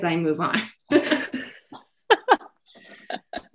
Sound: laughter

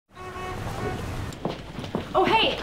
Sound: horn honks

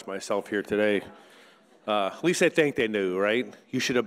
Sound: speaks foreign language

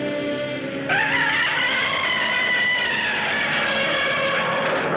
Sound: Gammera screeching

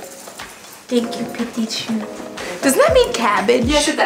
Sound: speaking french

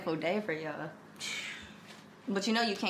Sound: L scoffs

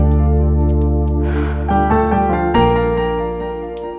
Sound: sighs

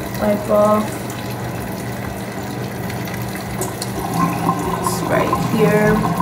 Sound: water spattering

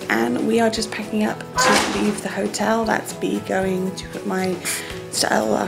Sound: door slamming

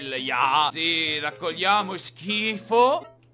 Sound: german accent

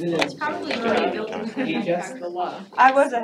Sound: indistinct chattering

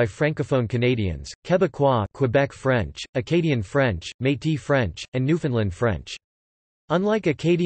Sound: quebec French

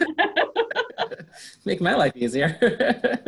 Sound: laughs

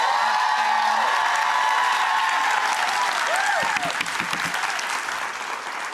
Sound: applauding and cheering

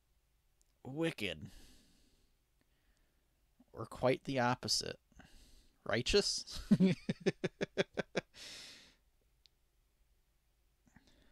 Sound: laughing

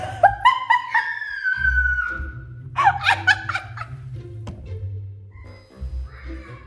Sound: laughing; child screams with delight

